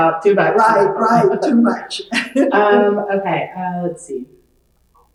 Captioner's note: laughs